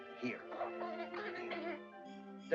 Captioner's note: Rupert chitters